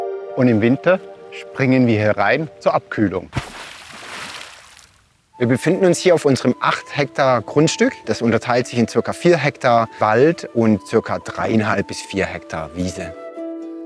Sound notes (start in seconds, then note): 3.3 splashing water